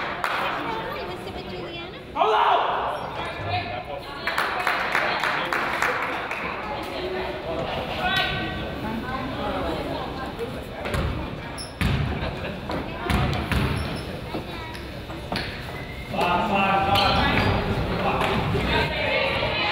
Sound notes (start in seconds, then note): 4.2 crowd applauds; 6.6 crowd chatters